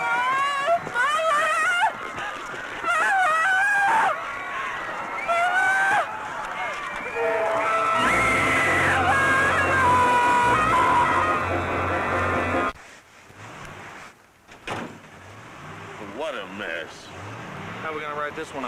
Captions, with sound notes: mother Mother! [SCREAM] What a mess. How we gonna write this one up?